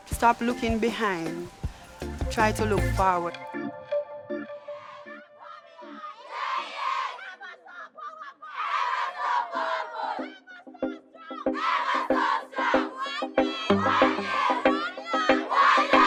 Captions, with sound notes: Stop looking behind, Alesha, try to look forward. (chanting) (upbeat reggae music)